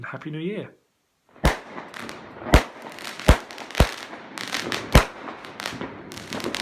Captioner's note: fireworks